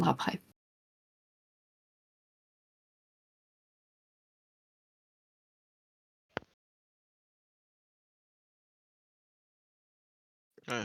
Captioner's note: silence